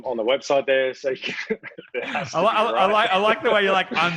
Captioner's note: laughs